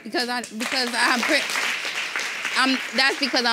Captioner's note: audience applauding